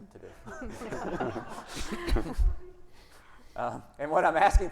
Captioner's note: audience laughing